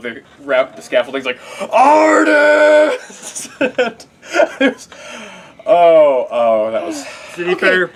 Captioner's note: laugh; sigh